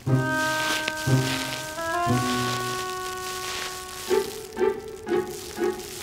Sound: rustling noise

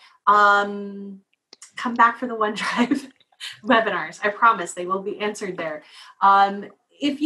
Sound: laugh

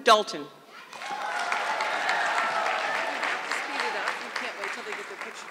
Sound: audience clapping

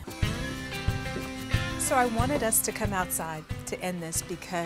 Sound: door squeaks

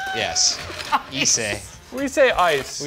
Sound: laughs

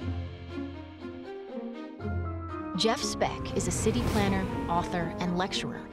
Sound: none

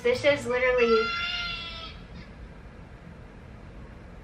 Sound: kid screaming

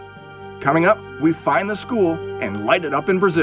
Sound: voiceover

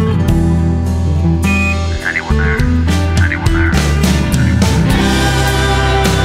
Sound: echos

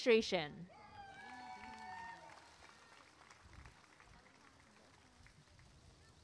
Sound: applause and cheering

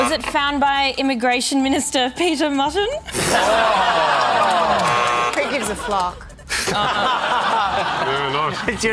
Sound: laughter

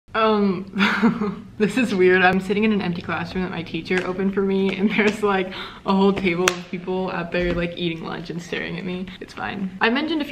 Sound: heheh

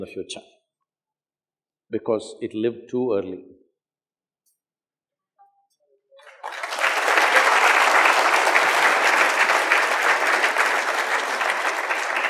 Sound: applause

